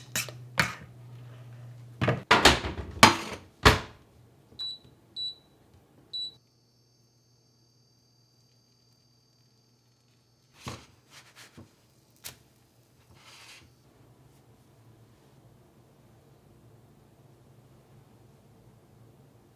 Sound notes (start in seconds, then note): 0.0 metal on plastic scraping; 2.0 several thuds and clanks; 4.6 three beeps; 5.6 the horrid electric hum of this stove